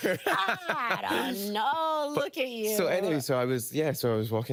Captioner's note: laughing